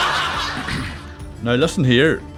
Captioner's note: clearing of throat